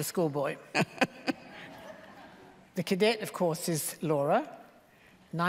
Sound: laughter

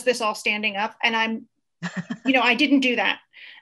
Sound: laughs

